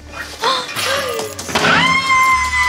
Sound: clattering; Snooki gasps; glass breaking; JWoww screaming

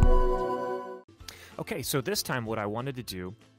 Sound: voiceover

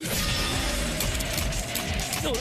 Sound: clicking sounds

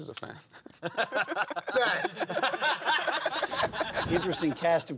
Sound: laughing

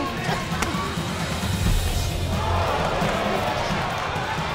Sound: crowd exclaims

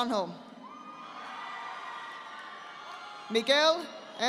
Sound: audience applauding

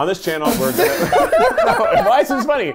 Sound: laughing

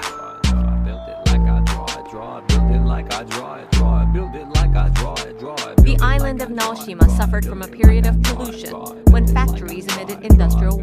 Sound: female voice

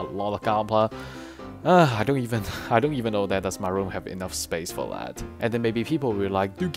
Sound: sigh

